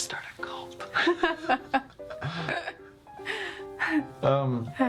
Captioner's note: laughter